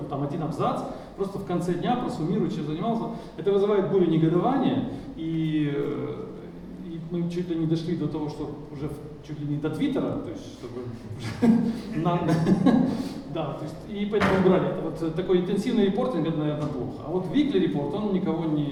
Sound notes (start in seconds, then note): 11.5 laughing; 13.4 speaking in foreign language